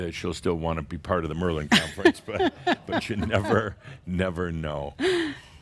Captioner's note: laughs